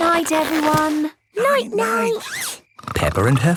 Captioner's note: snores